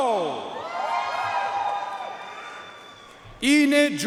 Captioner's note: audience cheering and applauding